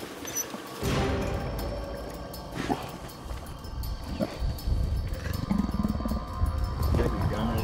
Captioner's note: bear woofing and grumbling